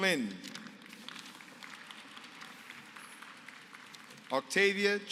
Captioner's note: applause